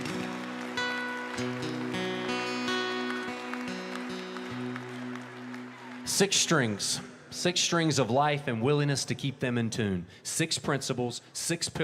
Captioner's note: applause